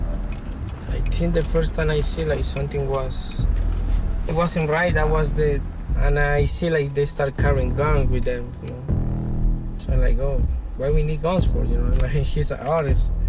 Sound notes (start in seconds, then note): none